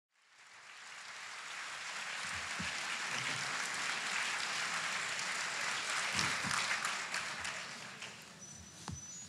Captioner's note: applause